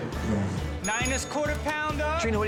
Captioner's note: bell dings